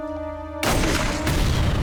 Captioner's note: gunshot